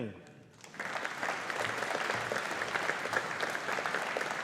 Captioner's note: audience applauding